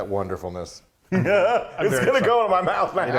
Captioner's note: laughing